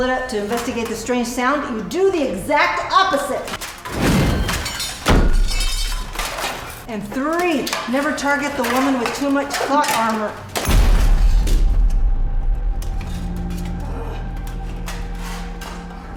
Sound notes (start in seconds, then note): 5.2 elbow thumping; 12.0 ominous music continues